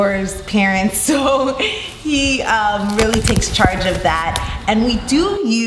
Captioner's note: laughs